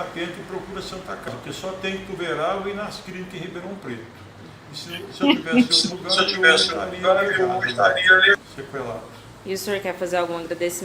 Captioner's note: multiple voices